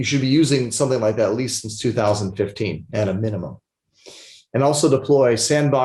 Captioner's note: sniffles